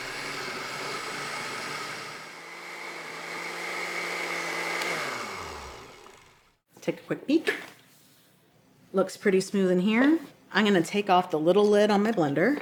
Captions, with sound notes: (blender stops) Take a quick peek. Looks pretty smooth in here. I'm going to take off the little lid on my blender and gently stream my olive oil in so it emulsifies